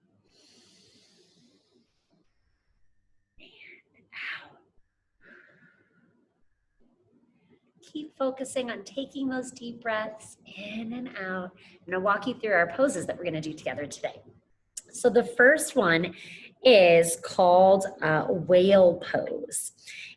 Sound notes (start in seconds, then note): 0.4 inhales; 5.2 exhales